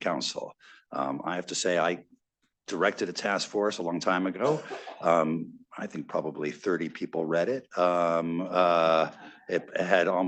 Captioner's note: laughter